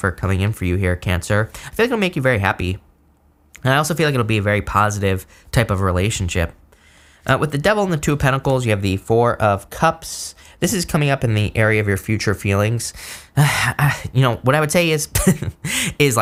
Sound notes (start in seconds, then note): 13.1 sighs; 15.2 chuckles